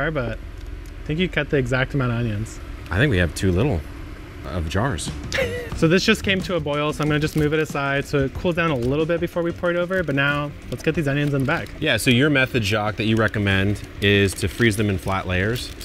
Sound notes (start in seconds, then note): 5.3 chuckles